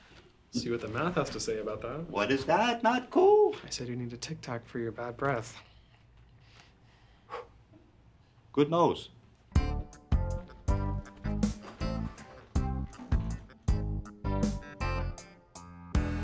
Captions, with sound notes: - See what the math has to say about that. - What is that, Not Cool? - I said you need to Tic-Tac for your bad breath. (Jewels exhales) - Good nose. (upbeat groovy music)